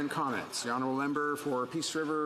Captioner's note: some Applause